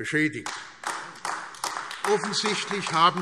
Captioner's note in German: Beifall AfD